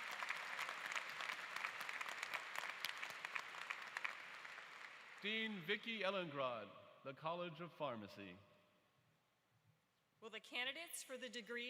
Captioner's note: applause